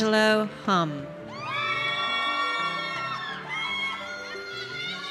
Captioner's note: audience cheers